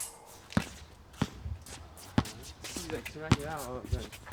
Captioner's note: ball thunking; players chattering